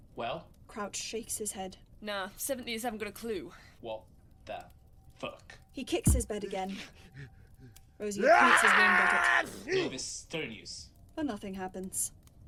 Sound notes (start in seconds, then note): 6.0 thud kick, “achoo” sneeze